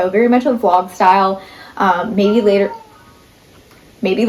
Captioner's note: cat meows